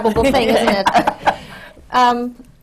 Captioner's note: laughter